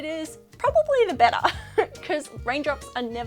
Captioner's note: laughs